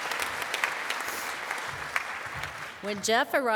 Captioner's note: applause